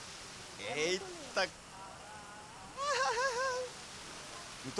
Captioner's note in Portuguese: Whindersson ri